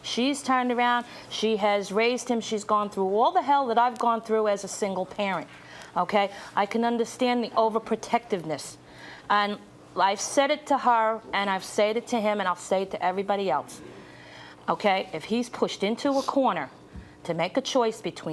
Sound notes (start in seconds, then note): none